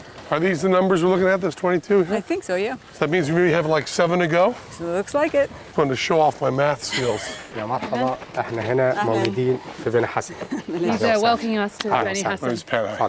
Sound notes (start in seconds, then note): 7.4 non-english speech; 12.1 non-english speech